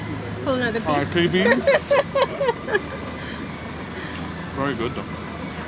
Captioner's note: laughs